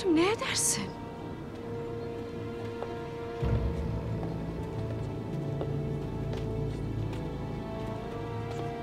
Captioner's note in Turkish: Ayak sesleri; Müzik - Gerilim